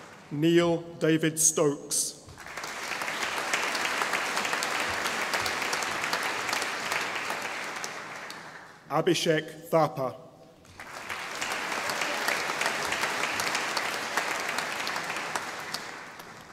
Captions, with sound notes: Neal David Stokes (audience applauding) Abhishek Thapa (audience applauding)